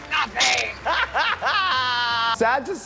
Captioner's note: laughs